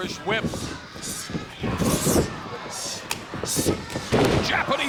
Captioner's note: wrestlers hissing